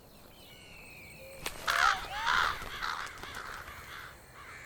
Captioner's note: bird cawing